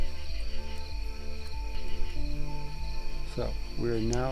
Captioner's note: crickets chirping